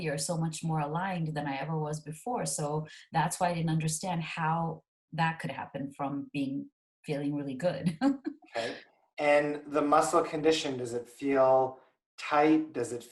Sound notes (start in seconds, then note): 8.5 laughing